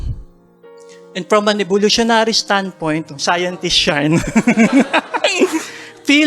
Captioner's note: chuckles